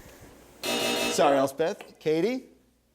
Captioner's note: buzzer